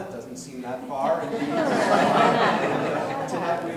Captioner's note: audience laughing